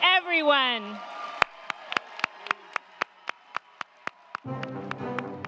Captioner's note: crowd cheering; crowd clapping; upbeat music